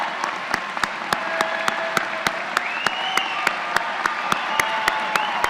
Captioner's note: applause